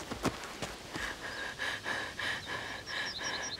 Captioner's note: breathing heavily